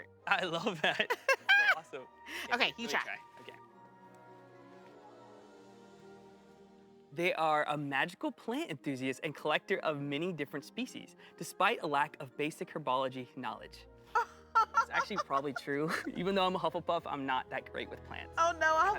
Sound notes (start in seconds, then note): 0.5 laughs; 14.5 laughs